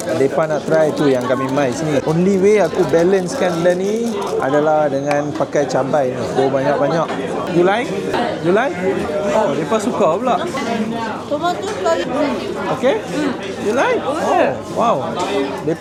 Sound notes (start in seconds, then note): 11.3 speaking Japanese